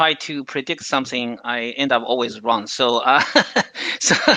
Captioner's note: laughs